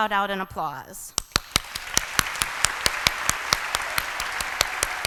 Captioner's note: applause